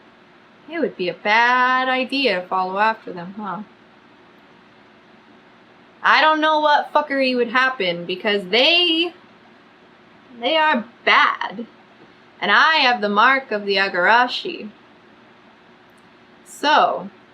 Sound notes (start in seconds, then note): none